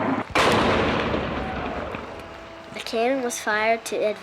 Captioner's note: cannon firing